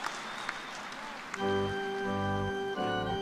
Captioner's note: cheers and applause